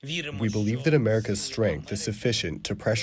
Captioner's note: through translator